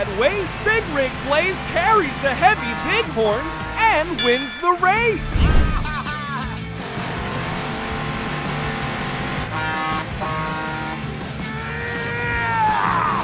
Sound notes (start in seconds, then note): 5.6 laughing; 6.8 revving; 9.4 honking; 11.1 grunting